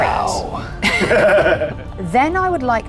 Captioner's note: laughs